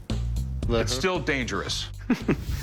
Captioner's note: chuckling